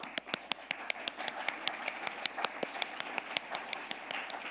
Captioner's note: audience applauding